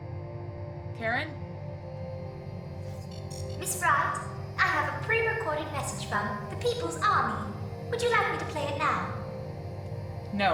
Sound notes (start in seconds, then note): 3.2 glitching alert